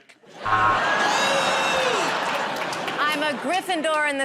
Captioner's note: laughter